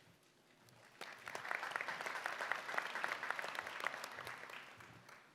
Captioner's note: applause